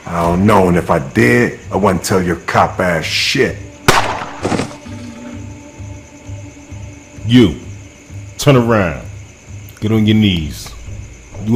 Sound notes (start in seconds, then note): 3.9 gun shoots; 3.9 body falls